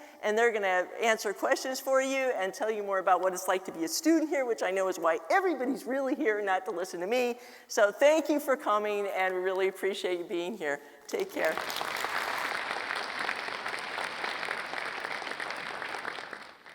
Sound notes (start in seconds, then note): 11.4 audience applauds